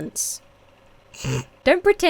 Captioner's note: snorts